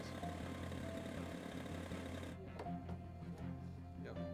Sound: propeller turning; background talking

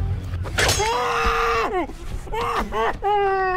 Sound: screaming

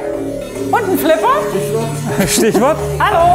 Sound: droning

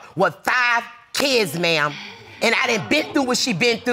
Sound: audience exclaims

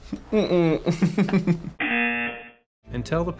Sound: laughs; buzzer rings

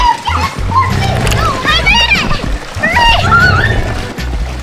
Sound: grrr, grrr!

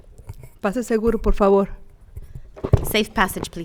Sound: speaking Spanish

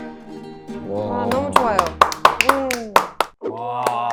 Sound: applause; also applause

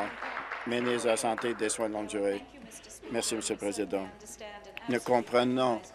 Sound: applause

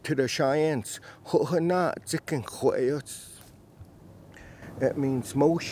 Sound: speaks in Cheyenne language

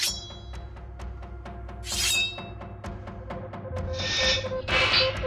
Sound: none

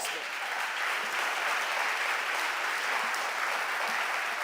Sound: audience applauding

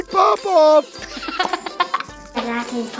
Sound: laughing

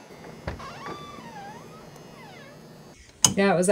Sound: door squeaking

